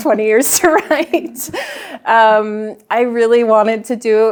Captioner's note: chuckles